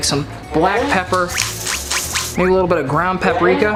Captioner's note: pepper container rattles